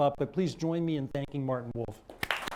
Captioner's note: applause